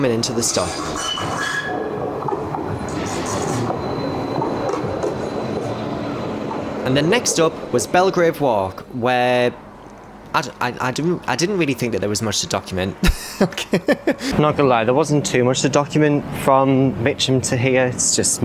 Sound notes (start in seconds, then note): 1.8 tram rails squeaking; 13.0 laughs